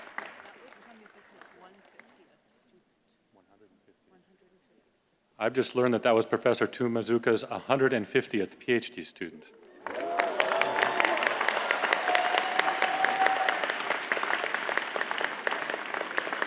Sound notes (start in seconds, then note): 9.8 cheers and applause